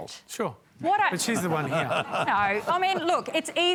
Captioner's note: laughter